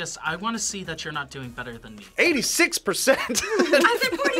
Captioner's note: laughs